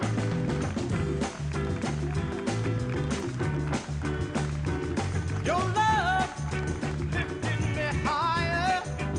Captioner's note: applause